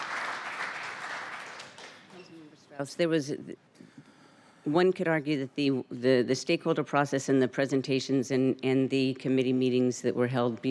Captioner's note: applause